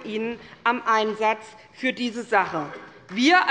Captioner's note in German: Beifall bei der SPD